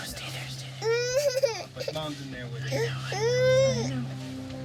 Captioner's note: cries